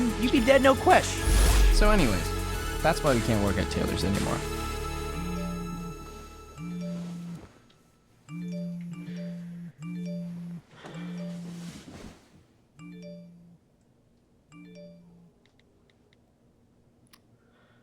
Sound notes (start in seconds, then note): 6.5 phone chimes; 10.4 Marvin sighs; 12.8 phone chimes